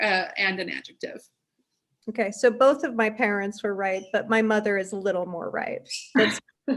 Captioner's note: bird chirps; laughs